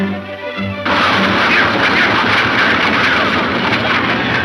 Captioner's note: shots fire